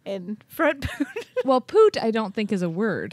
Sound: chuckles

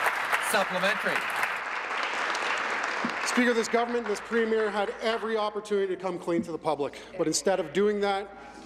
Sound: applause

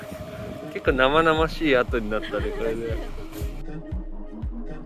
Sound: laughs

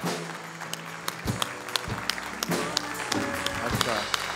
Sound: applause

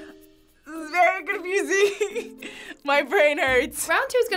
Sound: laughs

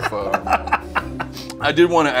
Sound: laughing

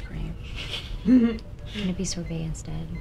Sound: Black Canary & Barbara laugh

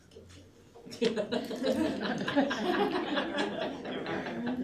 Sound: laughter

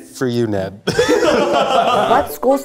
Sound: laughing

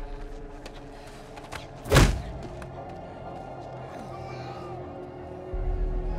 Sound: suspenseful music; Kimiko huffing

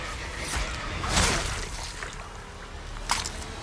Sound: blade slices

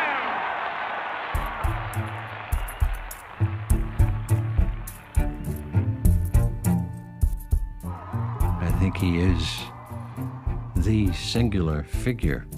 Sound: cheering and applauding

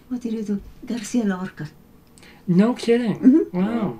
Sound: laughs

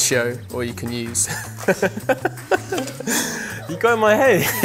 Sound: laughing

